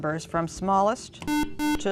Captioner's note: beeping